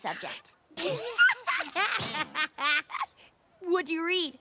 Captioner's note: laughing